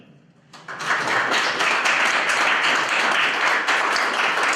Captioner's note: applause